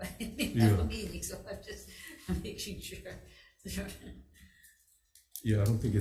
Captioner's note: chuckles